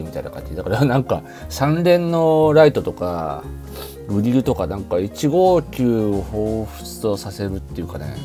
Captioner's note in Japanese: 鼻息